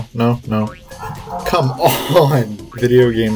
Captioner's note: laughing